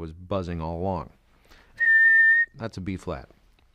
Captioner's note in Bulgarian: свиркане с уста